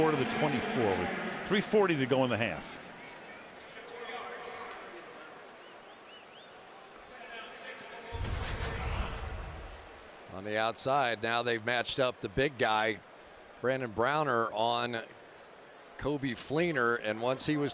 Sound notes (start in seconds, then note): 4.5 pa announcement